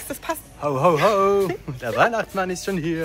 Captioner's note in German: Lachen